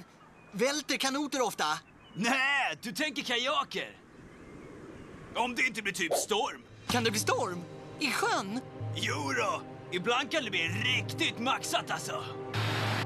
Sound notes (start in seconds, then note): none